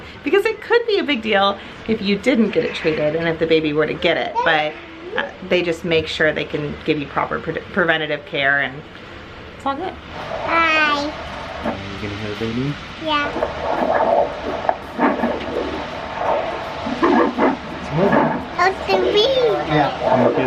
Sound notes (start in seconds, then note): 13.0 baby's Heartbeat on Ultrasound